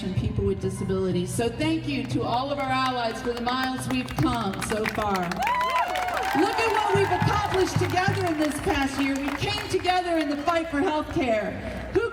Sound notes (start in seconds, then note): 5.4 crowd cheering and applauding